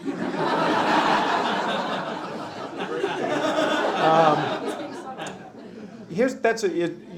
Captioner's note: laughter